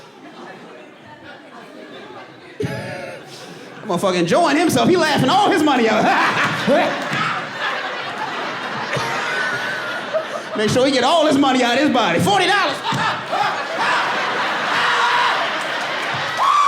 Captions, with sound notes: Motherfucker enjoying himself. He laughing all his money out. [LAUGHING AND COUGHING] Make sure he get all his money out of his body. $40! [LAUGHING LOUDLY] [WHOOPING]